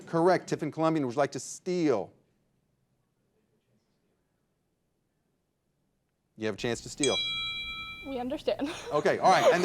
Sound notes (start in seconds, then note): 6.6 signal dings; 8.4 laughs